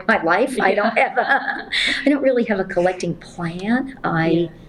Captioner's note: laughs